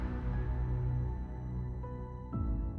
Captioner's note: air whooshing